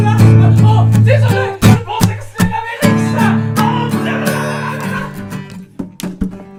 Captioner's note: more screaming